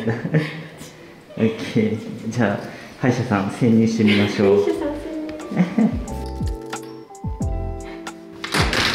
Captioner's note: laughter